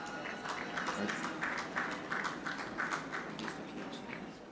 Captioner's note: audience clapping